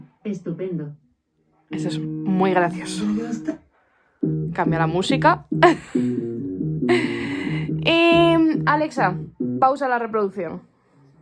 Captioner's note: laughs